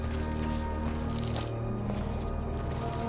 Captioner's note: footsteps